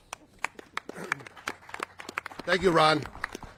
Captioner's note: all clapping